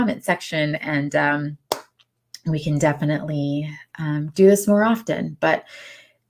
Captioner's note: claps hands